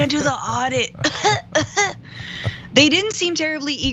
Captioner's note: laugh